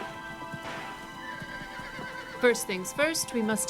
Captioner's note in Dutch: zachte muziek gaat verder; paard hinnikt